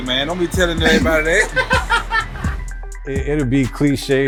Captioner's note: laughing